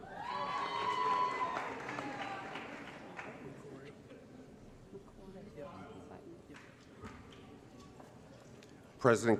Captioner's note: applause & Cheering